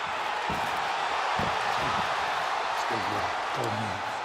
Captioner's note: booing